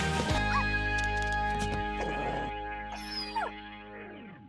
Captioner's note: pug barks